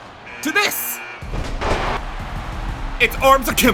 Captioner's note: buzzer buzzes